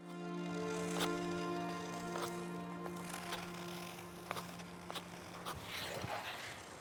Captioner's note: gentle poignant music; skates swishing